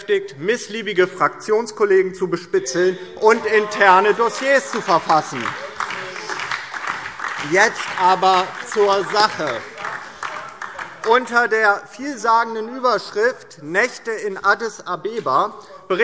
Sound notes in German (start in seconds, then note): 5.3 Beifall DIE LINKE, vereinzelt BÜNDNIS 90/DIE GRÜNEN und SPD - Zurufe AfD